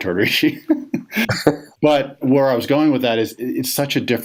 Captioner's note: laughs